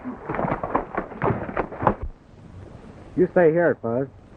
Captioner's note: horses galloping